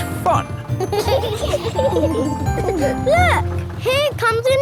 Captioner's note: kids giggling